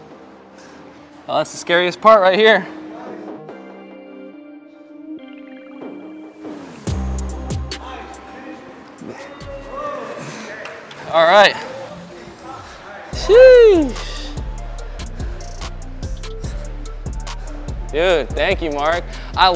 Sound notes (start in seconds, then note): 3.2 upbeat music; 9.5 onlookers cheering; 13.1 upbeat music